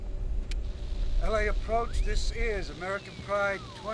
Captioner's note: static Buzzing